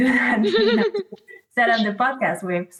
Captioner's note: laughs